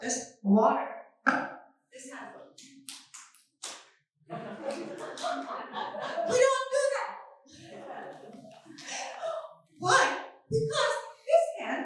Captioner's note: laughing